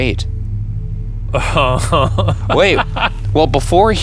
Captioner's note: laughing